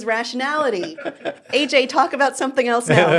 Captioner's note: laughing